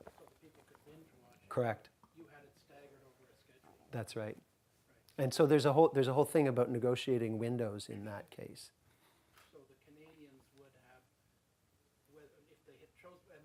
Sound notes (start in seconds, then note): 2.3 voiceover; 4.7 voiceover; 9.6 voiceover